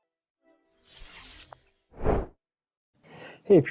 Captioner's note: air whooshing